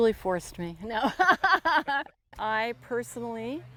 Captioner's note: laughs